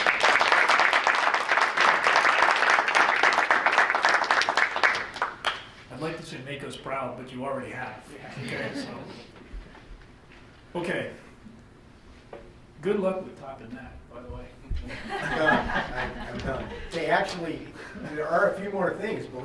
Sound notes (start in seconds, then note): 0.0 group applauding; 8.3 group chuckles; 14.8 group laughs